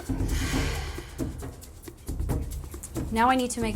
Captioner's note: sighs